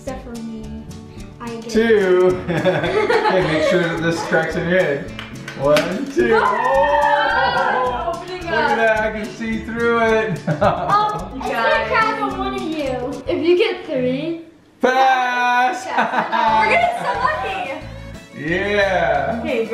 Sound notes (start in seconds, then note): 2.3 laughing; 15.8 laughs